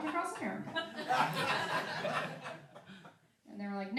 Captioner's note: laughing